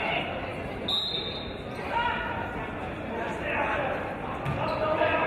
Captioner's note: referee's whistle